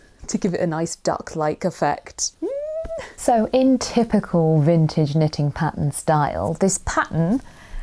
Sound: squeal of excitement

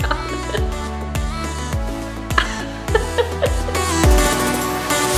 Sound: laughs

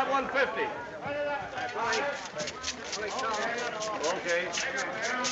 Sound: indistinct chatter

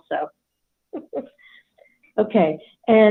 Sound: laughs

